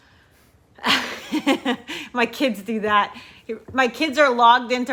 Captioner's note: chuckling